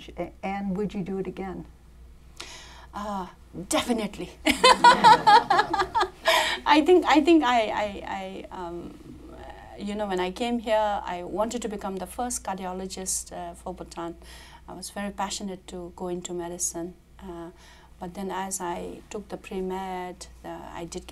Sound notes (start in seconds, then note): 4.5 laughs